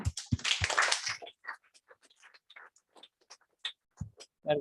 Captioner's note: applause